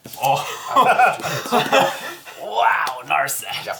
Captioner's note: all laugh